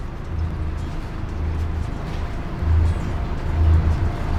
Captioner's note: engine revving